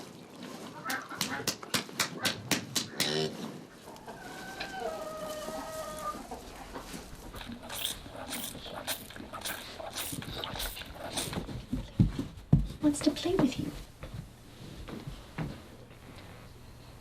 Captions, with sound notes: (softly smacking) (softly sucking) He wants to play with you.